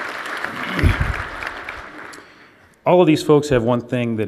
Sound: applause

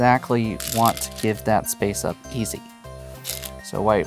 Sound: stones rattling

